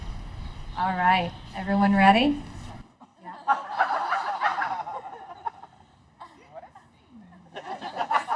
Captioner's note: laughter at the bounding squirrel